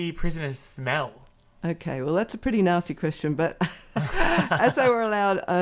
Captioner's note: laugh